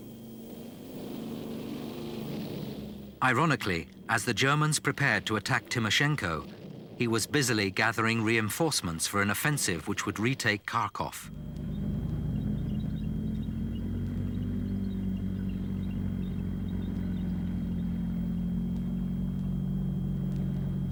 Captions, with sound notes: (engines roaring) Ironically, as the Germans prepared to attack Timoshenko, he was busily gathering reinforcements for an offensive which would retake Kharkov. (engines rumbling) (wheels squeaking)